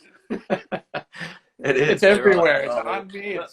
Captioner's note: laughing